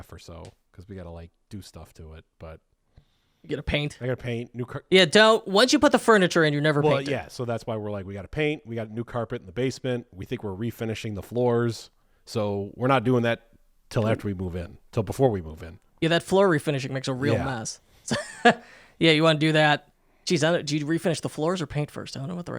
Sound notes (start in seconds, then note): 18.1 chuckling